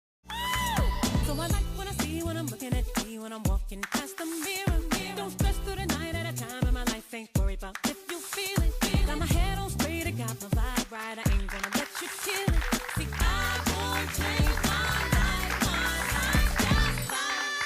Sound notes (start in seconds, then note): 12.6 audience applauding